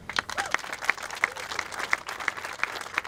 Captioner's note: applauding